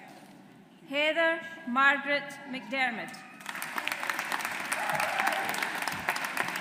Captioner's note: audience applauds